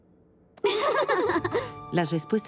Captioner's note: giggle